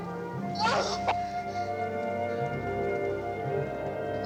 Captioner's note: Klara grunting